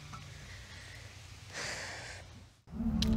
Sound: singing; deep sigh

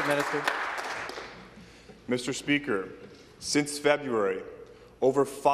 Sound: some Applause

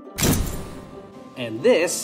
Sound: camera shutter clicks

